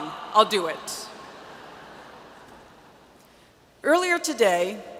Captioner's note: audience laughs